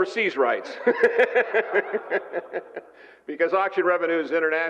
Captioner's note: laughter